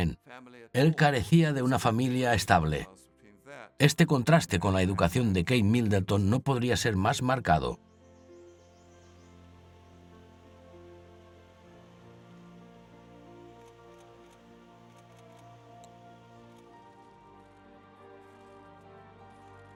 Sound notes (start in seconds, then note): 9.0 orchestral music playing; 14.8 camera clicking